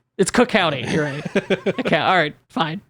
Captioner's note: laughs